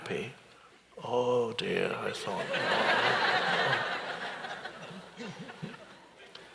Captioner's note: audience laughs